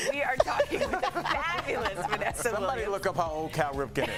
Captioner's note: laughter